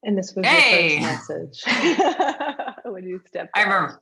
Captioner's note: both laughs